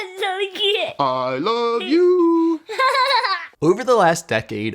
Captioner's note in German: Kind lacht